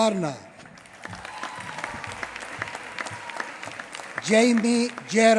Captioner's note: applause